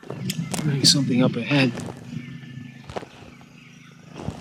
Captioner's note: crickets chirping